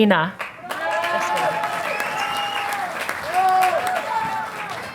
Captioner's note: audience applauding